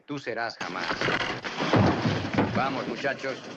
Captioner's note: thudding